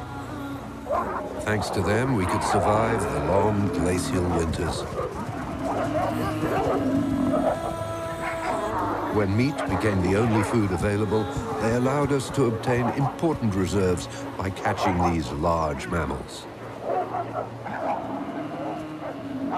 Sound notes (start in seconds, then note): 6.1 bison mooing; 6.1 wolves growling